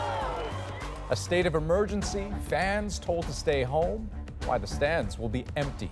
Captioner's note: crowd noise